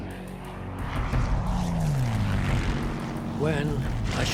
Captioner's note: plane engine roaring